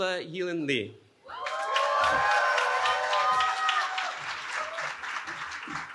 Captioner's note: cheering